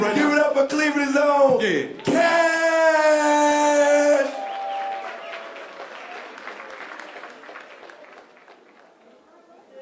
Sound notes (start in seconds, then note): 4.2 applause